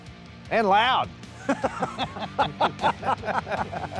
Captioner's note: laughing